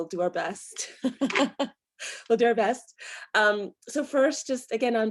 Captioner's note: chuckles